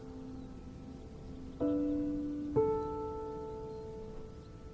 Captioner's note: gentle piano music continues; birds twittering